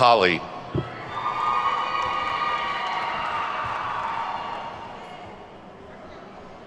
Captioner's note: attendees whooping and clapping